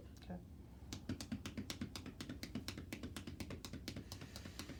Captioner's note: hands tapping